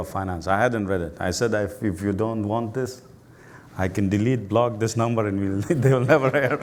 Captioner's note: laughs